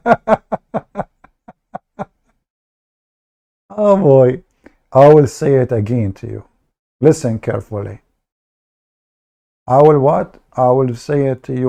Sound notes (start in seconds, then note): 3.0 Ketawa